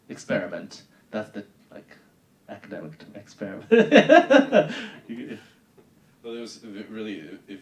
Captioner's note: laughing